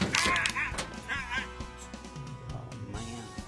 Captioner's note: shouting